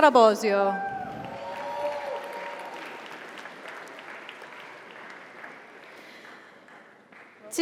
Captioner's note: audience cheers; audience applauds